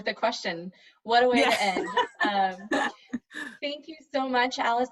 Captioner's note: chuckles